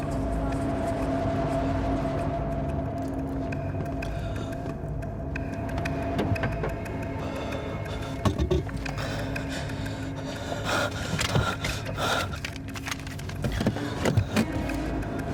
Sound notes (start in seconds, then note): 0.0 voices echoing; 0.2 suspenseful music; 8.7 breathing heavily; 12.2 suspenseful music